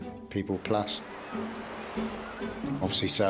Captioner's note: water splashes